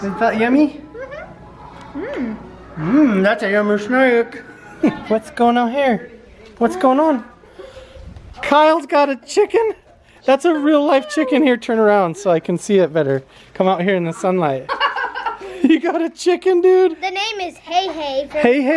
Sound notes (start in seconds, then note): 14.3 laughing